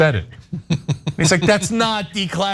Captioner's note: laugh